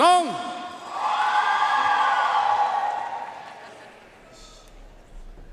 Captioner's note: audience cheering and applauding